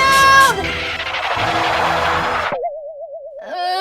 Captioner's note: horse hooves skidding